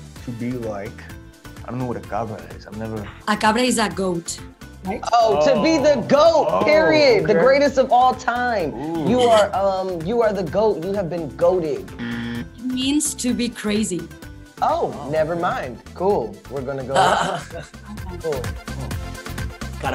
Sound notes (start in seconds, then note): 8.8 Georgina laughs; 12.0 buzzer; 16.9 Miguel laughs